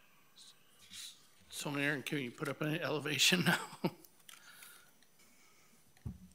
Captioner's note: laughing